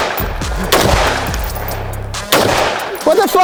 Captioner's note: all laughing; gun banging